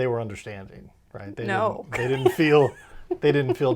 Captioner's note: laughs